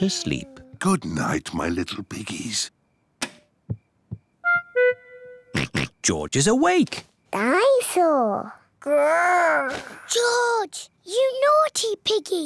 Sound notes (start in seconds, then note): 3.1 light switch clicks; 5.0 oinks